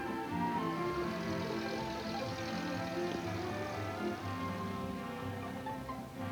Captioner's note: gentle music; traffic droning